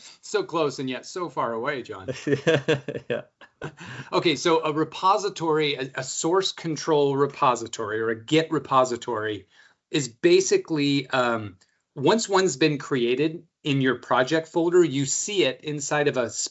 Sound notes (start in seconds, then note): 2.0 laughs